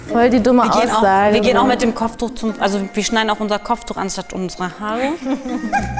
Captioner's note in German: lachen